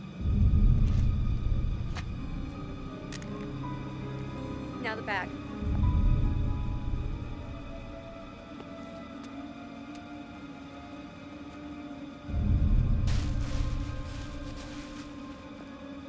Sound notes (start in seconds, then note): 3.2 gun clatters; 13.0 bag rustling